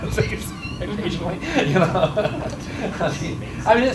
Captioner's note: chuckles